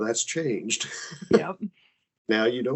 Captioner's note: laughing